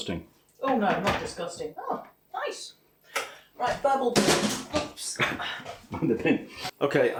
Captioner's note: crashes into bin